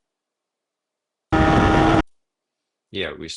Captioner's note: tires screeching